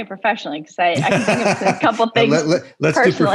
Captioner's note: laughs